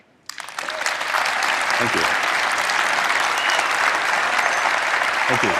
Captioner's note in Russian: Аплодисменты